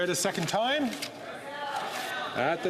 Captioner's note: speaking French